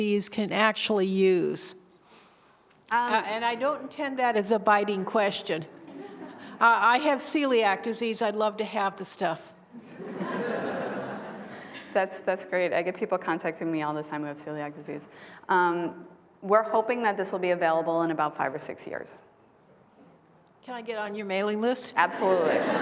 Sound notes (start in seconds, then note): 5.8 laughter; 20.3 laughter